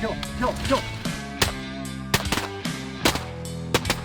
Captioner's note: gun firing